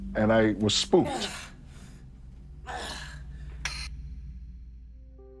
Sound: groaning

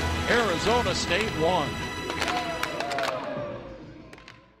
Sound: cheering

